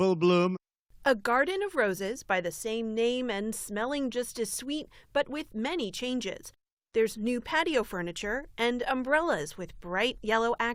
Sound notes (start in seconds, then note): 1.2 voice-over